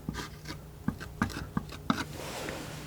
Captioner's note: scratching